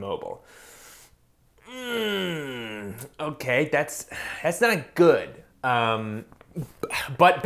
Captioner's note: pained groan